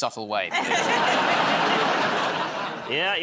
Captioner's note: laughter